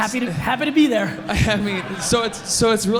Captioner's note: audience laughs